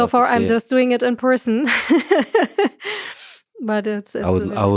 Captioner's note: laughs